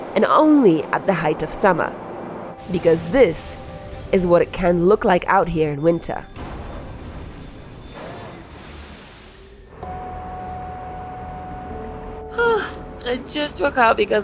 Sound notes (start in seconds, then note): 6.2 alarm ringing